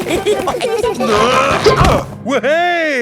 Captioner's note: all giggling; grunting